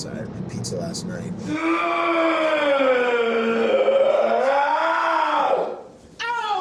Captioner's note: dramatic guttural groaning